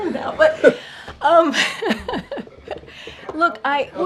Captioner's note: laughs